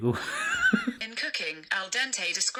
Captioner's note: laughs